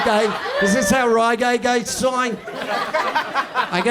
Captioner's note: Australian accent